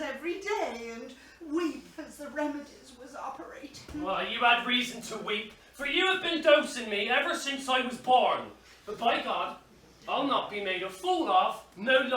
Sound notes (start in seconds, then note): none